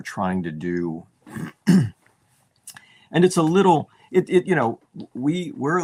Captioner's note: clears throat